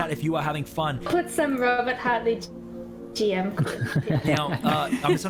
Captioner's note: mic cuts briefly